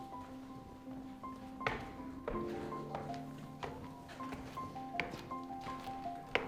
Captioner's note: footsteps